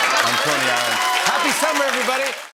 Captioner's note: cheers and applause